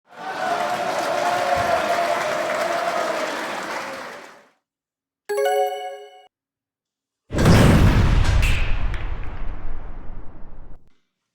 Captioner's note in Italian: Applauso